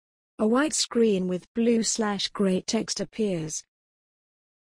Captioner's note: voiceover